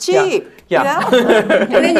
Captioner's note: laugh